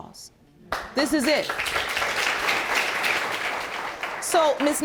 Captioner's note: audience applauds